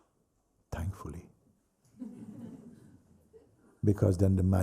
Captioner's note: laughter